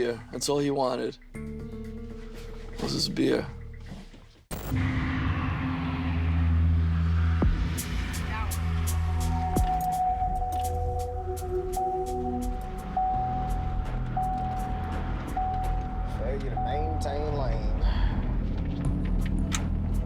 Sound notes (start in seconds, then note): 12.9 car chiming